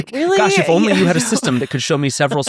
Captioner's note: laughs